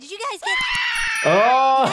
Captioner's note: girls all scream